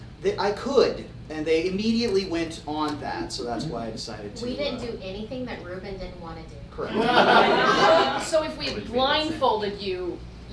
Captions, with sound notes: I could, and they immediately went on that, so that's why I decided to-- - We didn't do anything that Reuben didn't wanna do. - Correct. (audience laughing) - So if we blindfolded you,